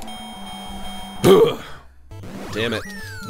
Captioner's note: bell dings